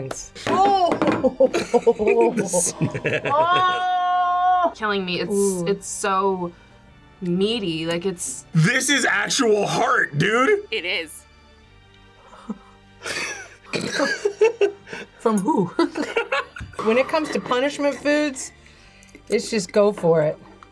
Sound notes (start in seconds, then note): 1.3 laughs; 15.8 laughs